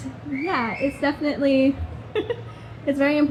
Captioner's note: audience member whistles; chuckles